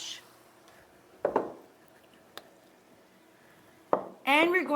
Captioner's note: bottle clinks on counter